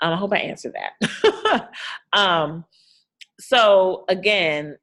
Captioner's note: laughing